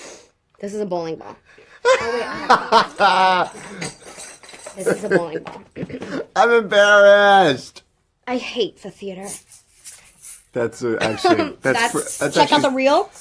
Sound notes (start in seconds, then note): 1.8 he laughs; 2.0 props jingle; 8.2 dramatically